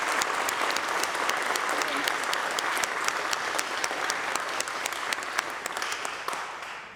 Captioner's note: applause